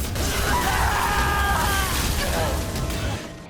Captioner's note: screaming